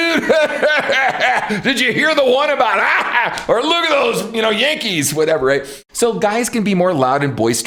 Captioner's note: laughs